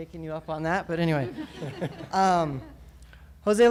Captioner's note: laughter